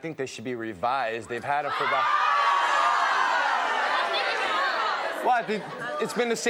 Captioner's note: audience outrage